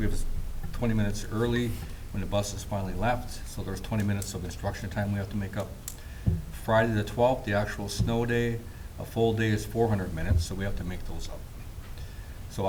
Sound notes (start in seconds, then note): none